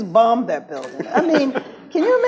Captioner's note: laughs